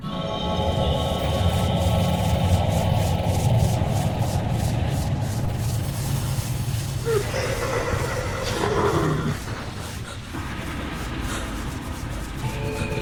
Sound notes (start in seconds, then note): 0.1 intense music; 7.0 creature growling; 10.1 Wendy gasping